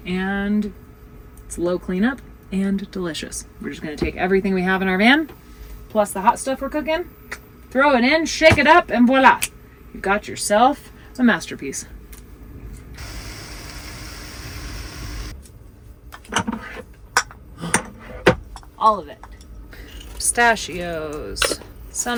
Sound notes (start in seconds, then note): 13.0 food sizzling